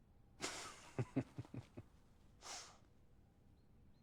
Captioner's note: John laughs